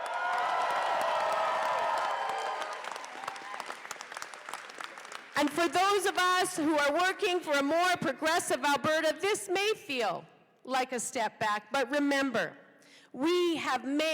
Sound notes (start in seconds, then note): 3.7 cheers and applause